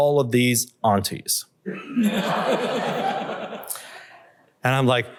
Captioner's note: laughter